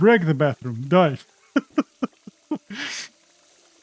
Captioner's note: laughs